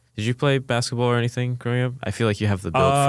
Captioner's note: laughs